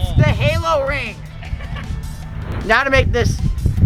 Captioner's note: laughs gleefully